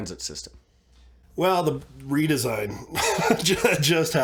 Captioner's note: laughs